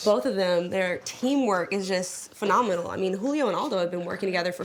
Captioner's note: none